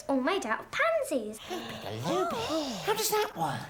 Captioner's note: both gasping